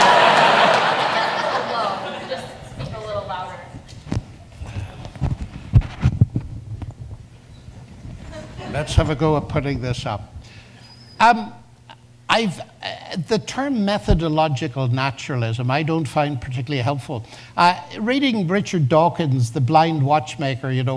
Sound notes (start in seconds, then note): 5.8 says deeply; 6.2 audience laughs